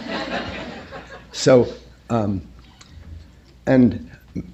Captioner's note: laughter